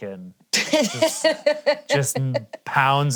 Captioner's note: laughing